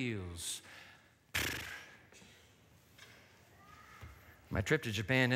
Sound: exhales sharply

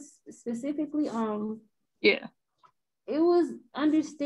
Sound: calm Voice

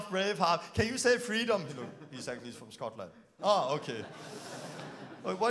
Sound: laughing

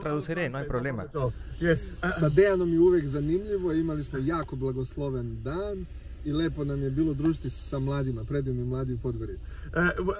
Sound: Hablando idioma extranjero

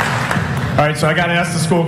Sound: applause

